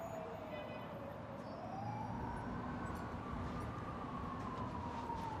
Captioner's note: distant police siren alarming